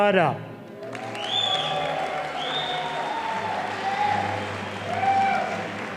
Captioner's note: audience applauding